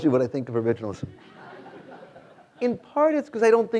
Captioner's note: students laughing